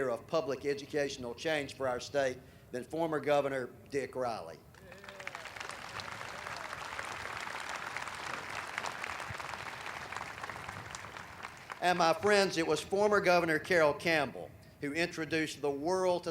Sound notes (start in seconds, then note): 4.7 audience applauding